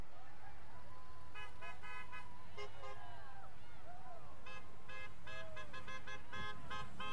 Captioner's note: vehicles honking; people cheering